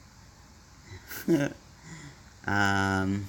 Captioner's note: giggles